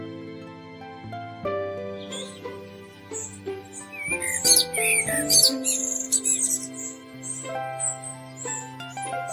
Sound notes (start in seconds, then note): 1.9 blackbird sings and birds chirp